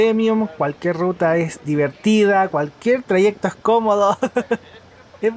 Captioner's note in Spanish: risas